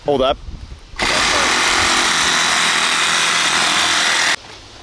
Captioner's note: saw buzzing